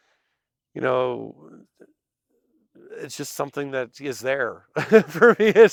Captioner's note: laughs